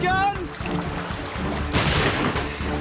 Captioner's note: pistol fires